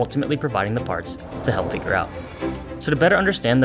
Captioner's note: machinery humming